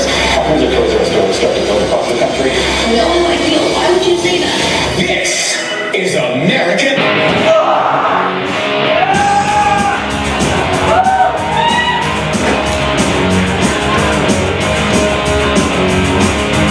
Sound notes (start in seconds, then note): 0.0 TV Static; 2.3 TV Static; 4.4 TV Static; 6.7 guitar cuts off TV